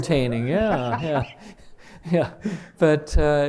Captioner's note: chuckle